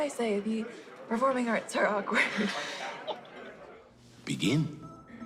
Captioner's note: laughing